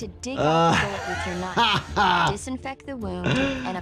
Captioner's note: laughs